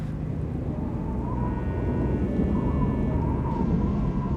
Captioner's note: storm rumbles